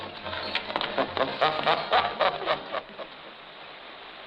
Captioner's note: Frenchy chuckles